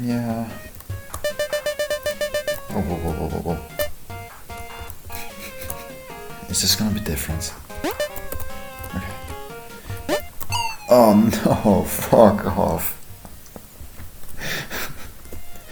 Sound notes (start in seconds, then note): 1.5 ping ping ping ping ping ping ping ping ping ping; 5.1 nose laugh; 10.9 chuckling